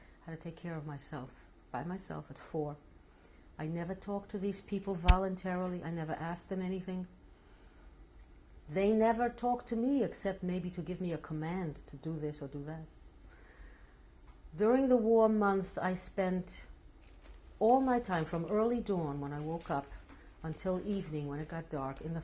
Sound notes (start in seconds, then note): none